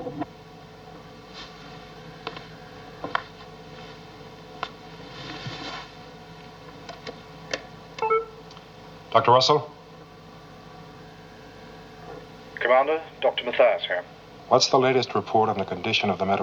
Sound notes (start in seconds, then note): 8.0 interfone emite um sinal sonoro